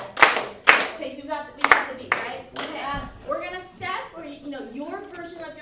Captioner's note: clapping